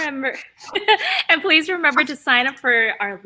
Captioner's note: laughs